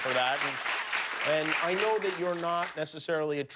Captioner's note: cheers and applause